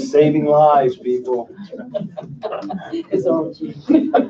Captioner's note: laughing